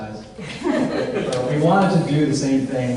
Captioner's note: audience laughs